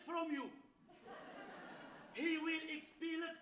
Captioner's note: audience laughs